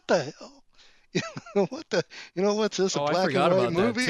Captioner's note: laughs